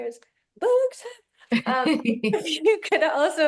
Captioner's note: chuckle